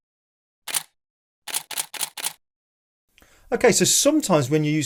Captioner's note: typewriter typing